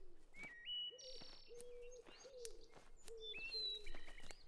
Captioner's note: birds chirping